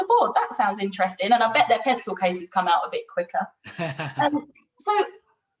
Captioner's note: laughs